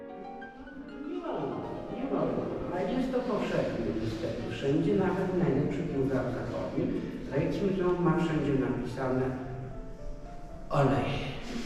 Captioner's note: speaking Polish